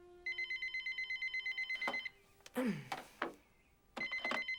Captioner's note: phone ringing